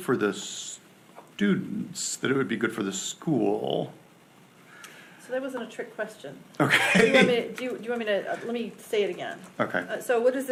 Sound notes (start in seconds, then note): 6.6 laughs